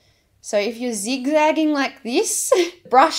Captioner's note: chuckles